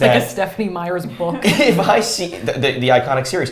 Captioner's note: chuckles